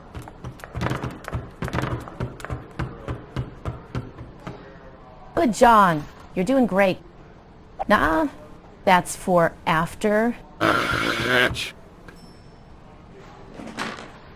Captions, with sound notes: [FOOTSTEPS APPROACHING] Good John. You're doing great! Nuh-uh! That's for after. [GROWLING]